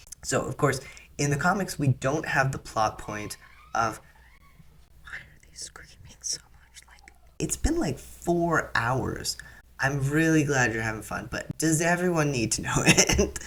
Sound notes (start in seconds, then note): 4.9 whispering; 13.0 laugh